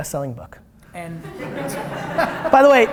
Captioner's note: laughter